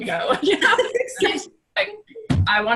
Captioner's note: laughs